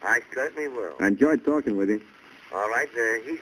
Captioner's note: on phone